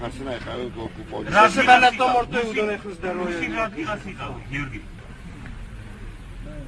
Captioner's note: speaking Georgian